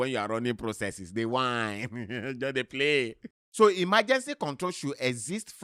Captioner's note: chuckles; chuckles